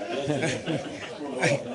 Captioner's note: laughter